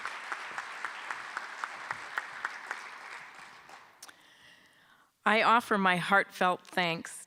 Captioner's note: applause